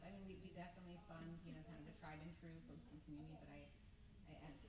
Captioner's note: mutters